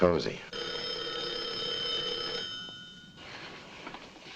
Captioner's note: telephone rings